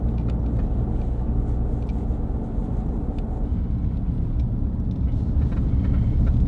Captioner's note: low hum of wheels on the road